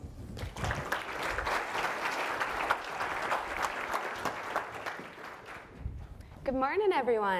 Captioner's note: applause